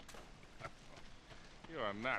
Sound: laughing; laugh

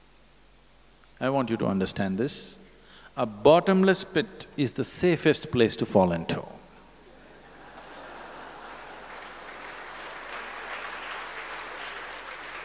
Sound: laughter/Applause

